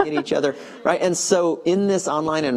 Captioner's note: laughing